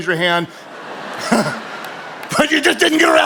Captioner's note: audience laughing